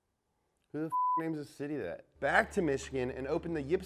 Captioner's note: beep